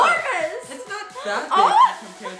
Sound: laughing; gasps

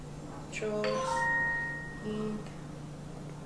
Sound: text message ring

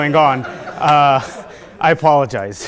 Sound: laughter

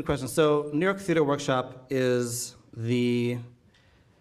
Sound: none

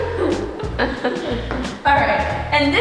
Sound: laughing

